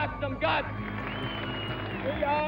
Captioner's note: applause